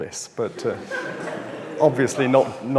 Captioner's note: audience laughs